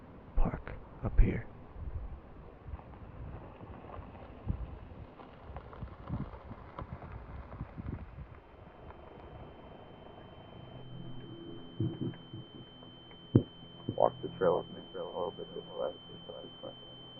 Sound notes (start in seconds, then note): 8.6 high pitched ringing rises